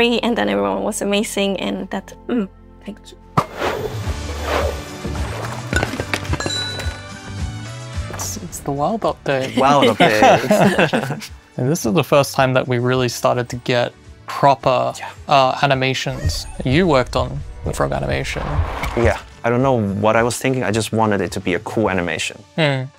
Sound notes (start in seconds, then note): 3.7 playful instrumental; 9.4 laughter